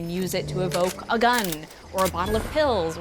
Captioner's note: gun chamber clicking